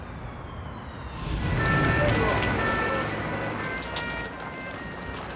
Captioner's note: sirens blaring